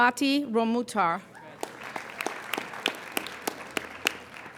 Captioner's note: applauding